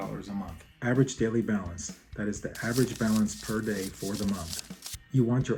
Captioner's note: teller counting cash